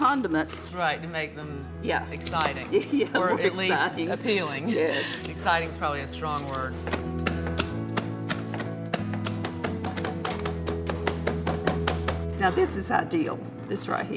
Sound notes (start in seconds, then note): 1.7 laughs; 6.6 calm music; 9.5 cans clunking